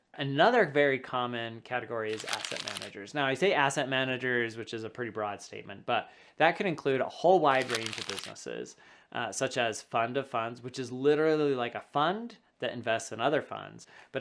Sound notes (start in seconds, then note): 2.1 paper rubbing; 7.5 paper rubbing